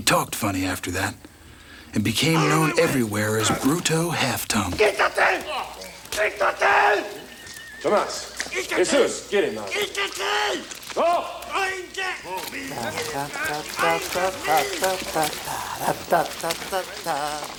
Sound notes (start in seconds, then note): 4.7 Bruto yells in Spanish; 9.7 Bruto yells in Spanish; 12.6 Crecencio hums melodically